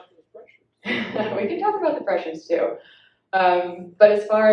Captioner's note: laughs